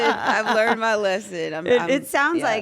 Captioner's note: laugh